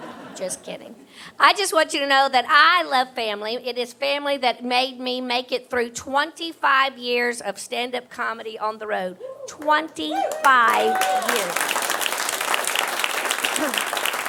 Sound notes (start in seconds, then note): 10.1 audience applauding